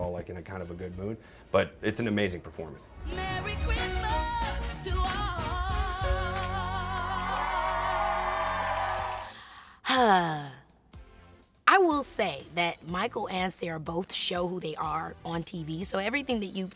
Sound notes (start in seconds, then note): 6.3 applause; 9.2 sighs